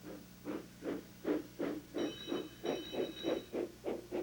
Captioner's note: engine chugging, bell clanging